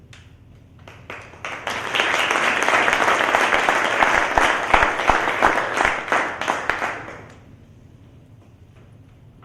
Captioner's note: applause